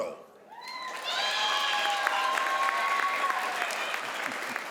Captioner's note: crowd applauds